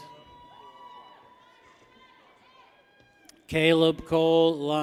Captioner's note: people cheer